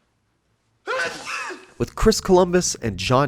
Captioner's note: sneeze